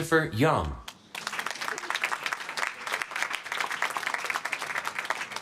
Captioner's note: applause